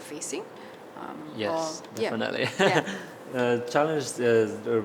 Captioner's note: laughs